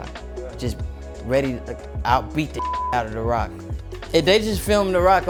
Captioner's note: beep